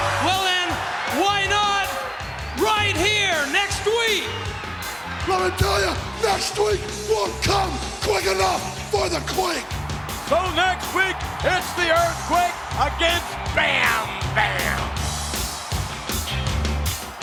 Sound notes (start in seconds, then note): 0.0 audience cheers; 10.3 audience cheers; 14.4 upbeat music